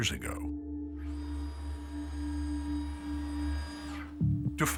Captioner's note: device whirring